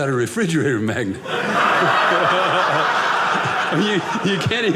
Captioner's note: audience laughing